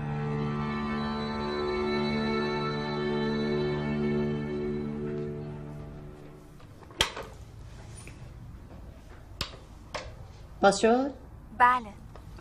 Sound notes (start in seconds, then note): 7.0 thud; 9.4 click